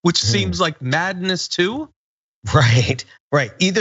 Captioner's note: laugh